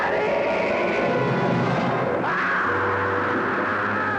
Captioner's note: scream